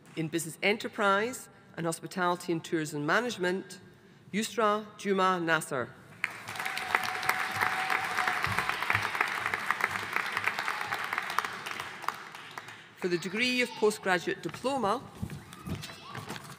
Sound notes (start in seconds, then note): 6.2 audience applauding